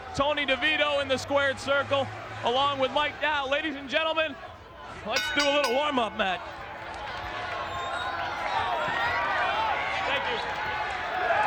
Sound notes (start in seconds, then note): 7.3 audience cheers